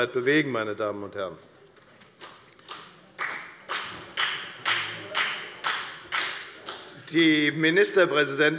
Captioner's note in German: Beifall bei der FDP